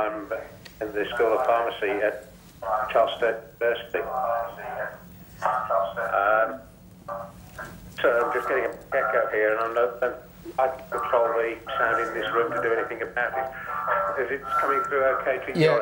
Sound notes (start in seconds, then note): 4.4 voice echoes